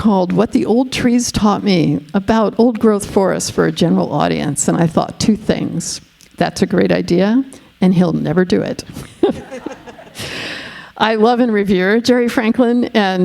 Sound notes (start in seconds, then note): 9.2 all laughing